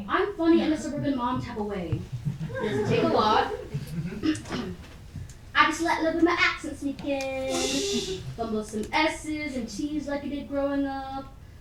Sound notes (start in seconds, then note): 2.1 audience laughing; 3.8 clears throat; 7.4 chuckling and shushing in audience